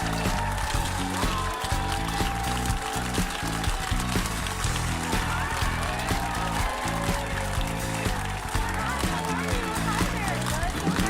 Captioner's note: applause; cheers and applause